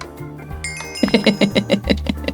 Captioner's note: laughter